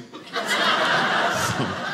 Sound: audience laughing

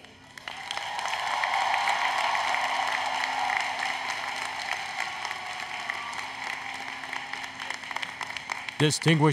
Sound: applause, Cheering

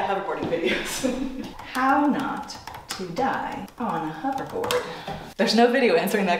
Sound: keys typing

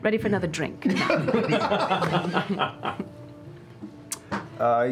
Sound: laughter

